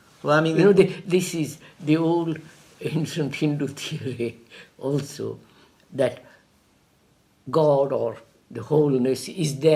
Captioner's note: laughs